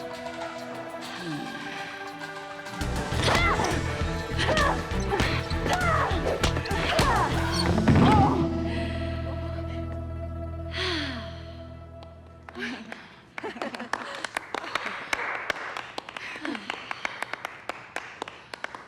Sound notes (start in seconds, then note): 10.6 sighs; 13.2 all laugh nervously